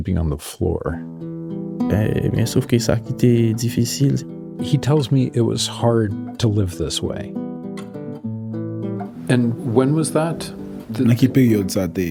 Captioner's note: speaking Creole